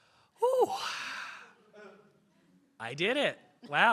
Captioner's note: interpreter sighs